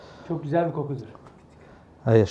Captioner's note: Turkish